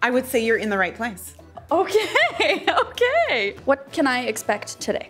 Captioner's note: laughing